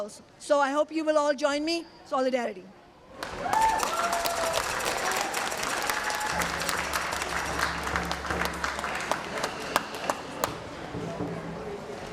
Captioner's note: applause